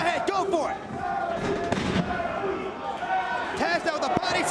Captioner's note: spectators chanting "Sabu!"